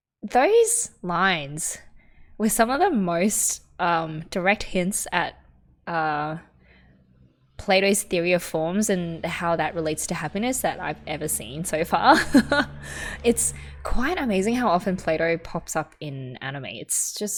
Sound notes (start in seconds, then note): 12.0 laughs